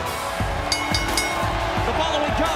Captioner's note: bell ringing